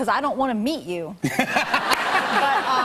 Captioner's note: laughter